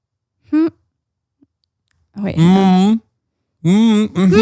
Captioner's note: both mumbling